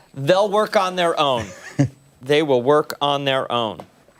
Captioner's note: laughter